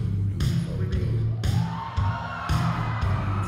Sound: cheering

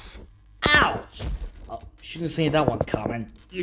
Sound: thud

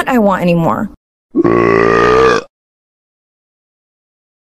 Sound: burps

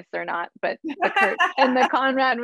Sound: Jane's laughs drowns out the speaker's voice

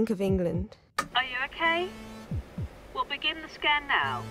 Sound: muffled voice

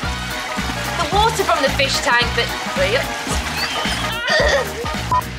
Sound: laughter

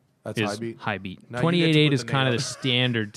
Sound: laughter

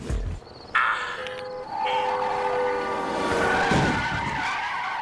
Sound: tires screeching

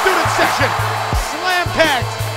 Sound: cheering

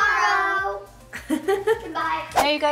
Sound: laughing

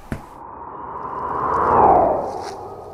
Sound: whooshing sound

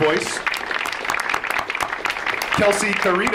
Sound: audience applauds

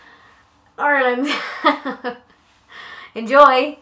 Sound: laughs

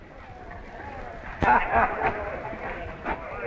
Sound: chuckles

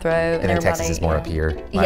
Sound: laughing

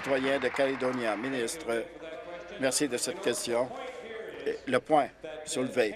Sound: applause

